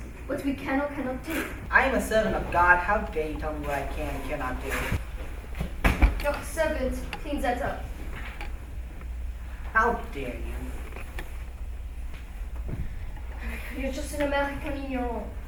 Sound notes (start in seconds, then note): 5.5 pillow thuds